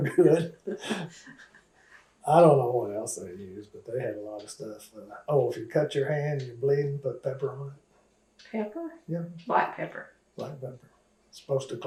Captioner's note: laughs